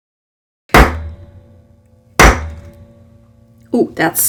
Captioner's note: banging sounds